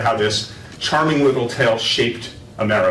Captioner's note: none